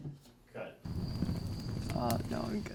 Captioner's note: sonido de insectos